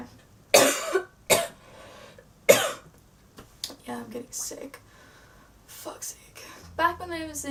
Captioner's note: coughs